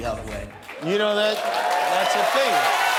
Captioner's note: cheering and applause